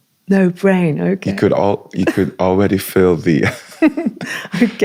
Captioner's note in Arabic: ضحك